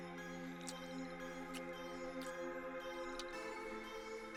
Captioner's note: lips smacking